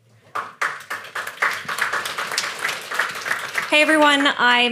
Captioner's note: audience applauding